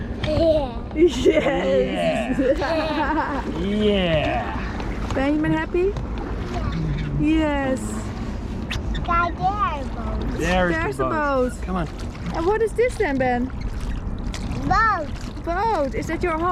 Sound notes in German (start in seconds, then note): 1.0 lacht; 2.0 alle lachen; 8.8 murmelt